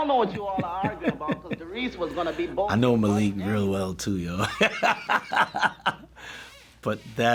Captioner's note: chuckles; laughs